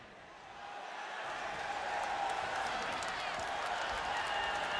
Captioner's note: audience cheering